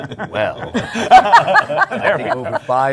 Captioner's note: laughter